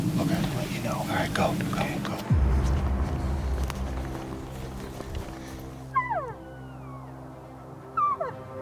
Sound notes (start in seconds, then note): 5.6 caller cow calling